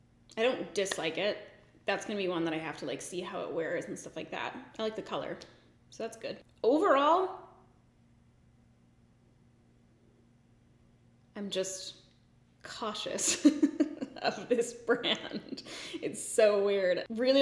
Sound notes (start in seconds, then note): 13.2 giggles